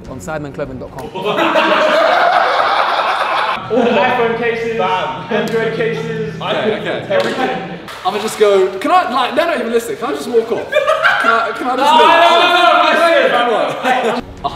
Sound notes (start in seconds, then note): 1.0 group laughs; 10.4 group laughs